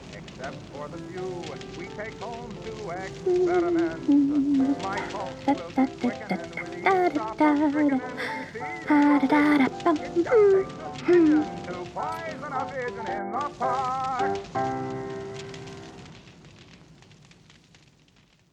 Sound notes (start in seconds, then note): 3.7 she hums along with the music